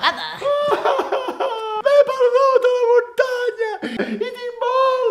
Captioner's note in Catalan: veu de nen